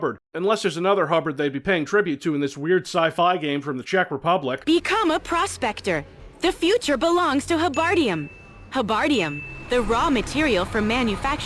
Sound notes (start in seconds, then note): 7.6 ding